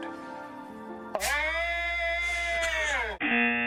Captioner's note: chuckles; moans loudly; buzzer; man moans loudly